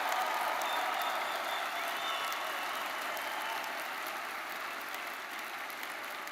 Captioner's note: audience whistling; audience applauding